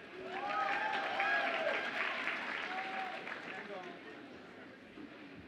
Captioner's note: audience applauds and cheers